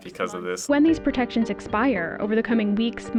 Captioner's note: voice-over